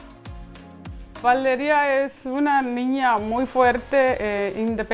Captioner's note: foreign language